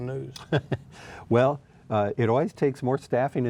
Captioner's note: laughs